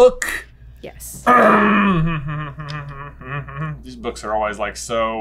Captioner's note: garumphing humming